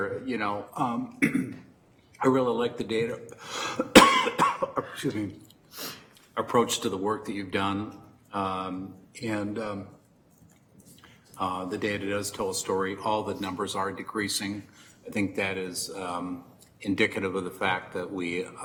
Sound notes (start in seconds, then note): 3.6 coughs